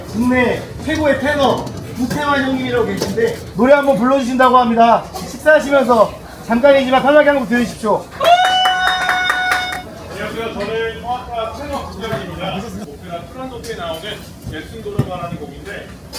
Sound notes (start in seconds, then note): 8.1 cheer